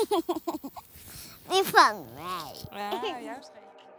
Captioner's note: laughs